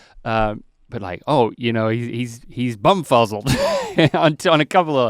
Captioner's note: laughs